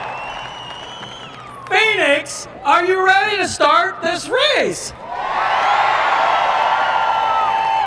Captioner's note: cheers and applause